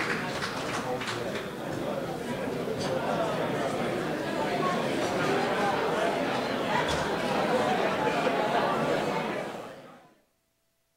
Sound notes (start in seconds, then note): 0.0 applause; 0.0 crowd talking